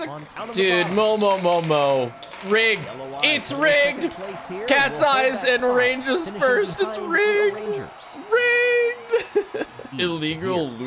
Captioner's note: laughs